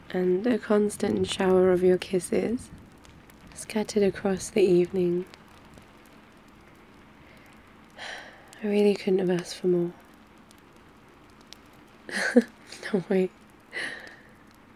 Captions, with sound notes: and a constant shower of your kisses scattered across the evening *sighs* I really couldn't have asked for more *laughs* no way